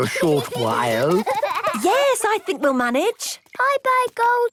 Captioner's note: giggling